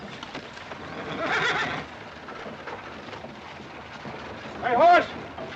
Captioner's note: horse neighs